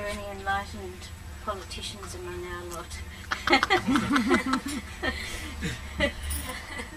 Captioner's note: shree mataji laughs